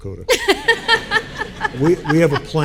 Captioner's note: group laughing